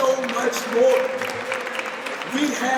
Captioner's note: audience applauds